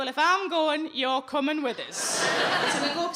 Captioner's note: audience laughing